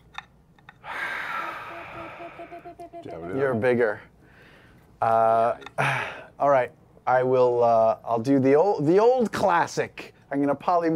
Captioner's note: sighs